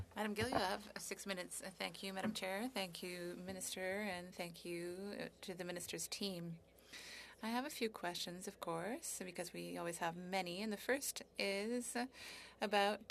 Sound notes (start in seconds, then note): 7.2 speaking French